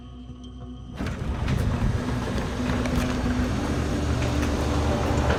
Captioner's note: garage Door Opening